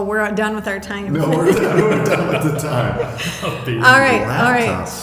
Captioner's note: laughing